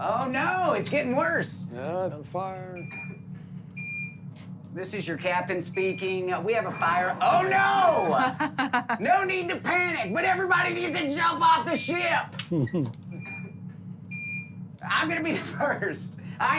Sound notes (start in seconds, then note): 12.5 beeping